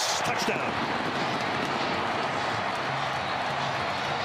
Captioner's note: crowd cheering